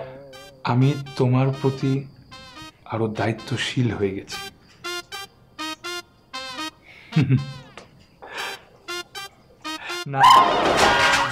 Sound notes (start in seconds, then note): 7.0 chuckles